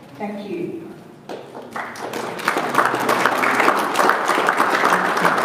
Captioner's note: audience applauds